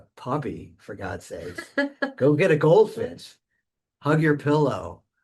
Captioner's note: laughing